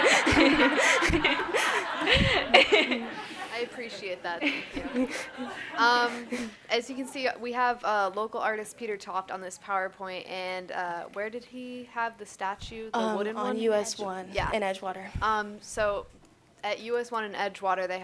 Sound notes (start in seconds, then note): 6.2 laughter